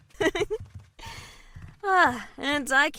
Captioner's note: laughing